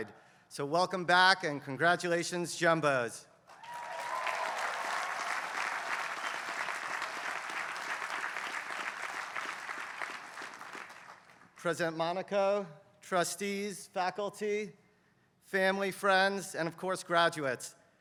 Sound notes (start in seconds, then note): 3.5 applause